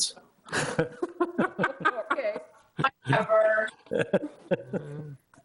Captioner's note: all laughing